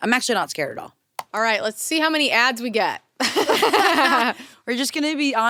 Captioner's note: laughs